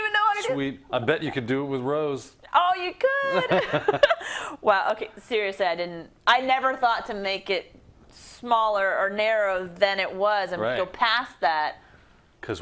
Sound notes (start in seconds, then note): 3.3 laugh